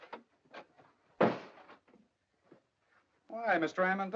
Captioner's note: door closes